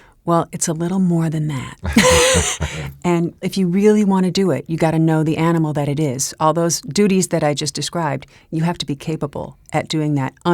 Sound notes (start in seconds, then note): 1.5 laugh; 1.5 laughs